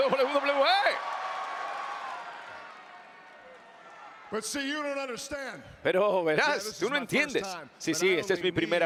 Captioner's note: applause